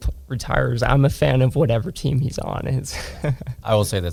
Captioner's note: laughs